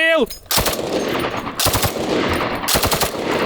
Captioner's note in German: Schüsse